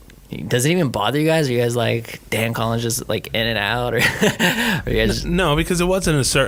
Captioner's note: laughing